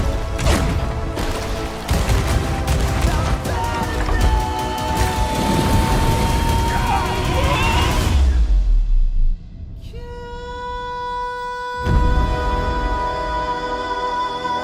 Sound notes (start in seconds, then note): 6.8 pirates yelling